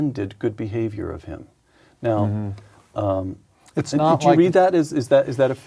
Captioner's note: multiple voices speaking